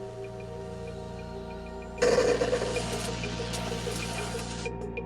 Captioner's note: white noise